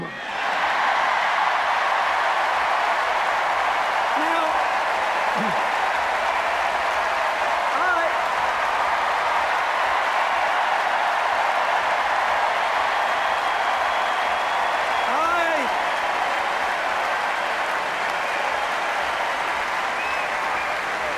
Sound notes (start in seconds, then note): 0.1 cheers, applause; 5.5 cheers, applause; 9.3 cheers, applause